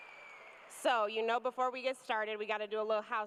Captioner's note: cheers and applause